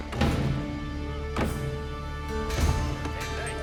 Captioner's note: hammer clanging